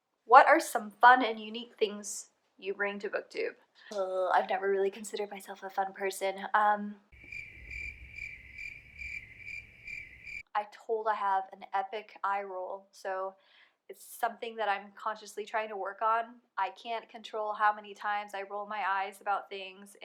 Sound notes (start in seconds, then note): 7.1 crickets